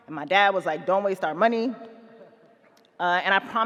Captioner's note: none